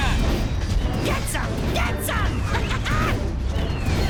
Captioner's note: laughs